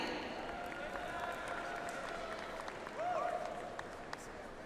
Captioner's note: audience applauds